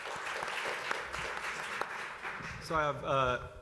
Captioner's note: applause